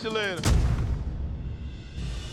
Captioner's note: thud; swish